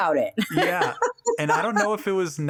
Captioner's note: laughing